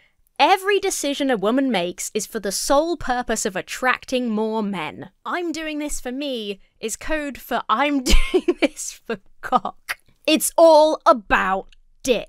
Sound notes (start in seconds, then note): 8.0 laughs